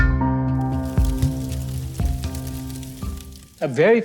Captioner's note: fire crackling